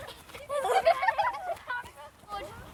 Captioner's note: laughter